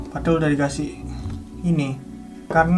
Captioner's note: bending rubber